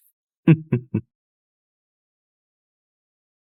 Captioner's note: chuckling